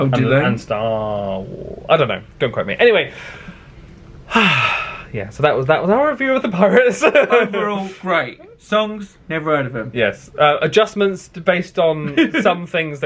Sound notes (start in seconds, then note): 4.2 sighs; 6.8 laughs